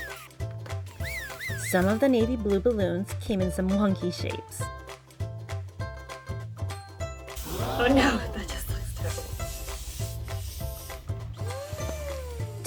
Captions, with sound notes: Some of the navy blue balloons came in some wonky shapes oh no... (crowd gasp) that just looks terrible